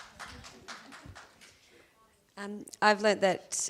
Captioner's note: audience applauds